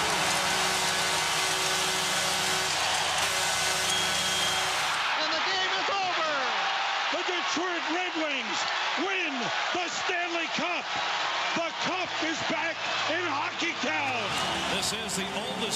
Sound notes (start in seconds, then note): 0.5 cheers and applause; 3.5 air horn blowing